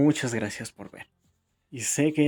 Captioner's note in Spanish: Silencio